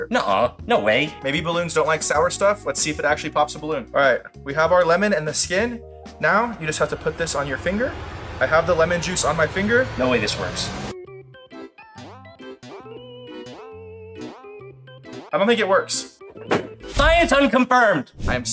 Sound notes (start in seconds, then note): 10.7 quirky music; 16.7 balloon popping